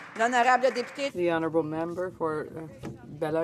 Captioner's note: applause